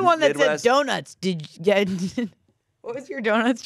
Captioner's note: laughs